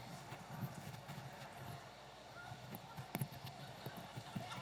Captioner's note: audience chattering